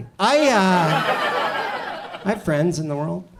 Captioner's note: audience laughs